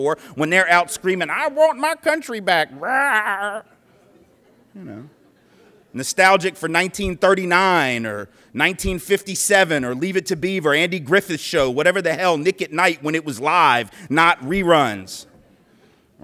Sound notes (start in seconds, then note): 3.6 laughter